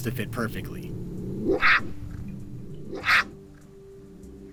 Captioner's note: cat snarling